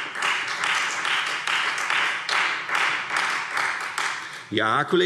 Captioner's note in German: Beifall Freie Demokraten und vereinzelt SPD